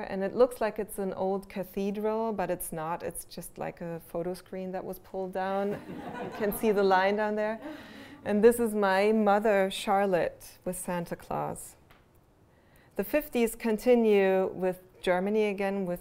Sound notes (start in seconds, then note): 5.7 laughter